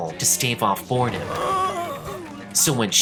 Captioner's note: yawns